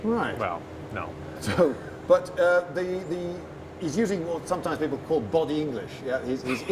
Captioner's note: laughs